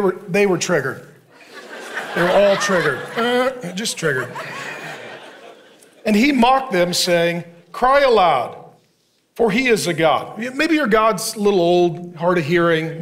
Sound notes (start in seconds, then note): 1.3 congregation laughing